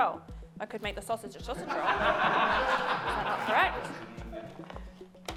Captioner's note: laughter